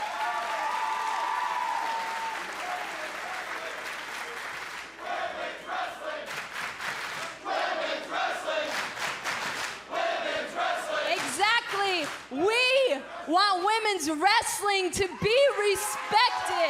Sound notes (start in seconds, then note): 0.0 cheers & applause; 5.3 fans chanting